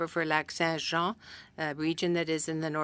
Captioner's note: speaking French